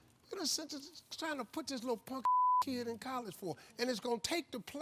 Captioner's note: beep